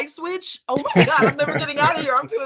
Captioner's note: laughing